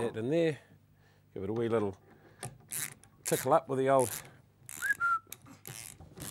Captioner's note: whistle